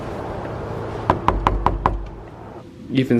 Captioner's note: knocking on door